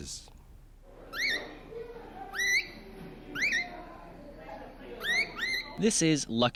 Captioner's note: bird squawking